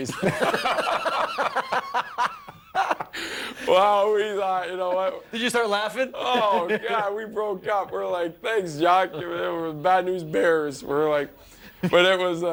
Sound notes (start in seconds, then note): 6.2 laughter